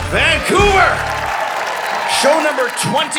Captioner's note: audience cheering